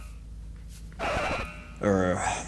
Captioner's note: buzz